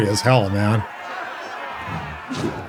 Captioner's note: footsteps